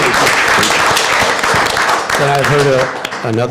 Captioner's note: applause